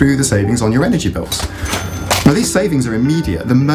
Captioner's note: cash register dinging